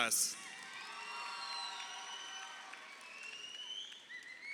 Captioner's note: crowd cheering